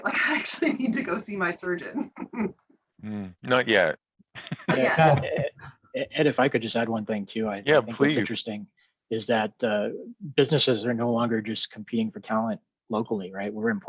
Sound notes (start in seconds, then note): 2.0 laughing